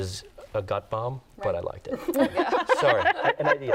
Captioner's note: laughter